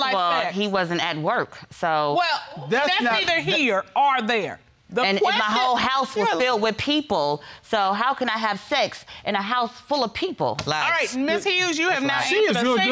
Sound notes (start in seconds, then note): none